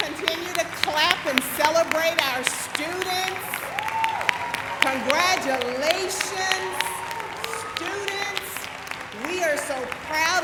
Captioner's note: applause